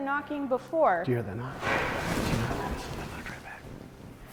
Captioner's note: knock